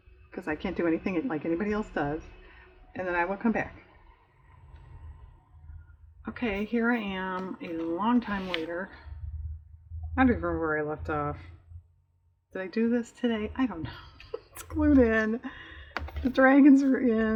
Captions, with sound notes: because i can't do anything like anybody else does and then i will come back okay here i am a long time later i don't remember where i left off did i do this today? i don't know (laughs) that's glued in the dragons are in